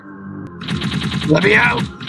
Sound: slamslamslamslamslam

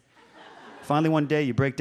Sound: audience laughs

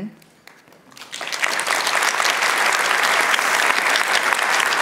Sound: applauding

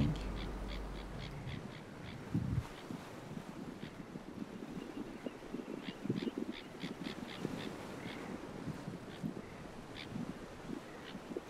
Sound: bird sounds

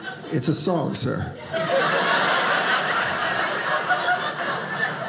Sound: audience laughing

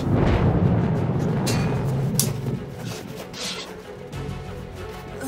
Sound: swords Clashing

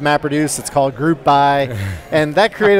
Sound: laughs

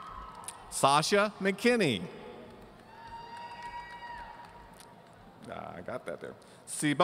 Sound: audience cheering

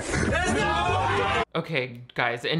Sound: all screams

